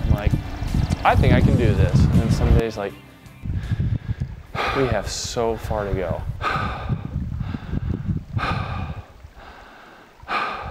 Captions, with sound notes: Like I think I can do this. And some days like we have so far to go. (breathing heavily)